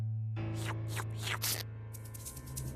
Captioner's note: slurping